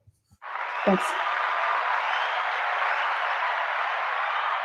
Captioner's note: applause